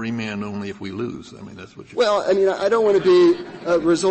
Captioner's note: laughter